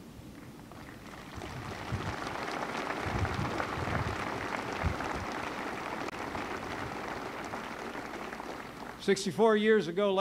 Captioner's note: applause